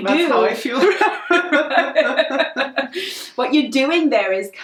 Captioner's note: both laugh